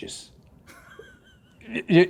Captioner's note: laughing